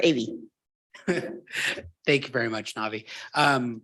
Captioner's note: chuckles